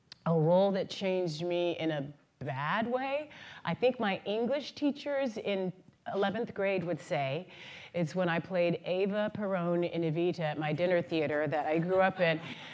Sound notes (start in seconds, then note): none